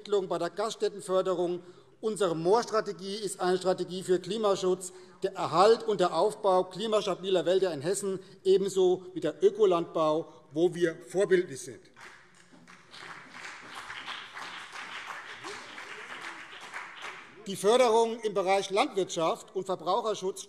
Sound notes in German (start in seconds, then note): 11.9 Beifall BÜNDNIS 90/DIE GRÜNEN und vereinzelt CDU